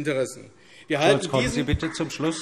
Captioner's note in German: Vereinzelter Beifall AfD